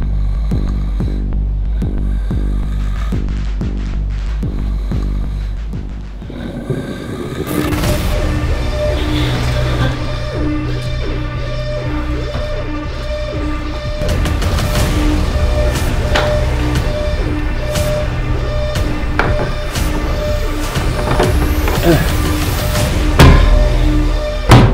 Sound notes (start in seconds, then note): 0.1 snoring; 6.2 oxygen concentrator sound